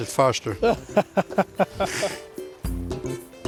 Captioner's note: laughs; upbeat music